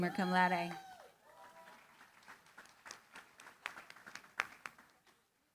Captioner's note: applause